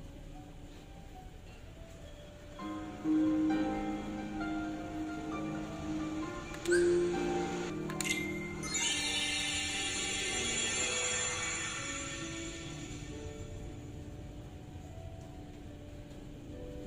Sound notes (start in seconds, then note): 3.2 magical music plays; 6.7 magical sound effects; 9.1 more magical sound effects